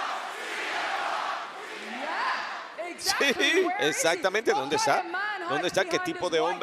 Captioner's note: applause